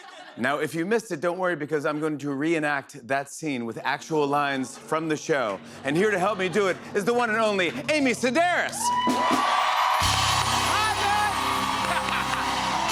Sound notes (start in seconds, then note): 8.4 audience cheering; 11.6 laughs